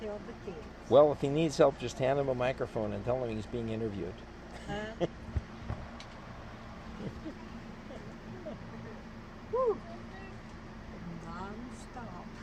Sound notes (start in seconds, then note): 4.5 laughs